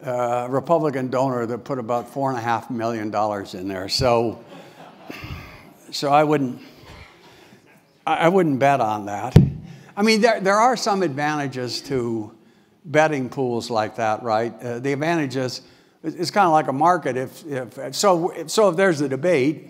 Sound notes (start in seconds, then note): 4.5 laugh